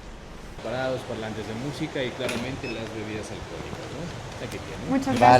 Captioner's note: in Spanish